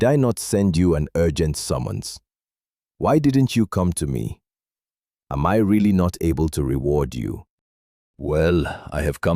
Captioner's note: thoughtful